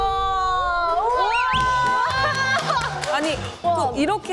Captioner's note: whoaaaaa